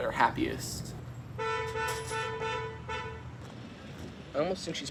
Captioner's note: car horn honks